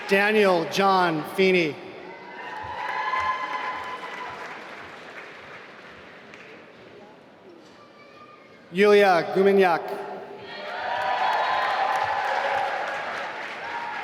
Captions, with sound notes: Daniel John Feeney (applause) Yuliia Gumeniak (applause)